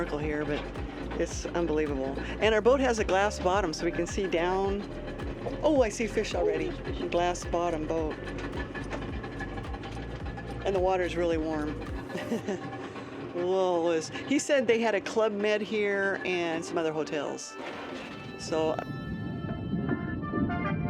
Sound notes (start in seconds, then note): 12.0 laughs